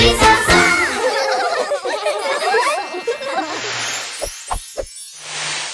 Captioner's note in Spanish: Risas